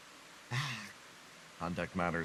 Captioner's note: sigh